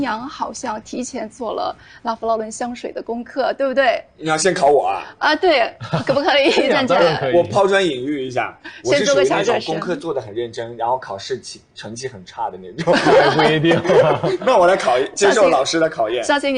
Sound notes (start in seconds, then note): 12.8 hahahaha